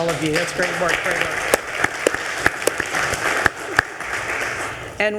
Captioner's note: attendees applauding